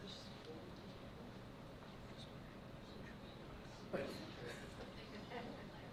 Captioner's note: board members whispering